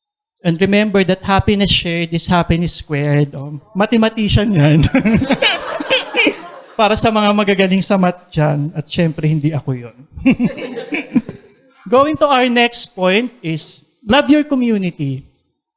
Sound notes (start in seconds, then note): 4.6 laughter; 10.0 laughs